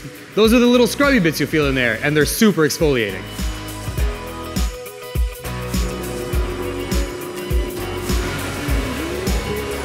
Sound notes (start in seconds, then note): 5.8 whirring